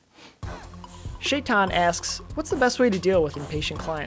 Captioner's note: voiceover